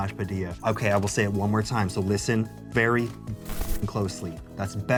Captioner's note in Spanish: pitido